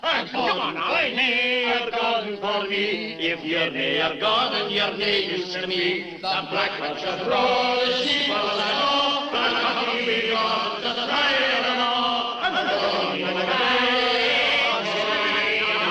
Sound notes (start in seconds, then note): 6.4 echoing; 12.6 singing continues distorted echoing